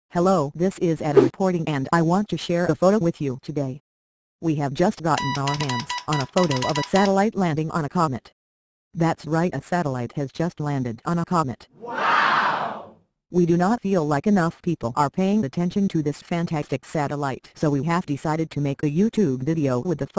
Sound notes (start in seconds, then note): 11.8 crowd WOW